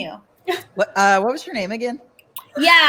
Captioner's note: chuckles